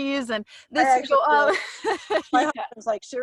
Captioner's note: laughs